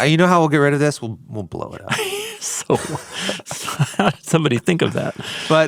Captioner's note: chuckles